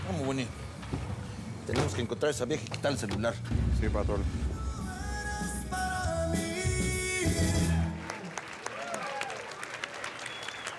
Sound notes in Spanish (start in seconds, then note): 7.8 aplausos